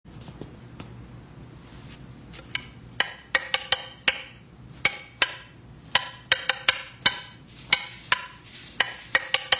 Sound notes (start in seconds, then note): 0.4 stick flexing and rubbing; 2.4 sticks tapping in musical rhythm